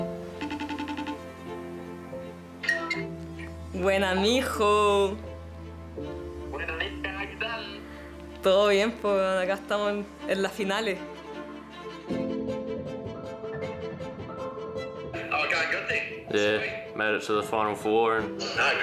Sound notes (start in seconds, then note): 3.8 speaking in foreign language; 11.4 bright upbeat music